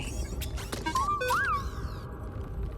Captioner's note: inquisitive bd-1 chirps